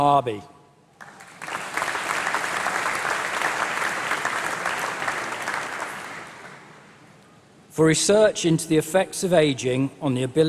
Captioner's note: applause